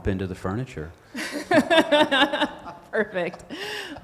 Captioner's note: group laughing